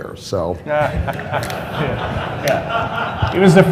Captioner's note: laughter